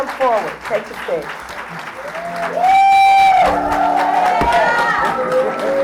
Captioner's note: applause